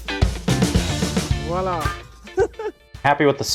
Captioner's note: laughing